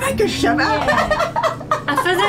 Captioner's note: laughs